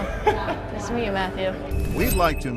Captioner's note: laughs